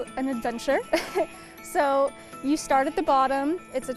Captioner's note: chuckles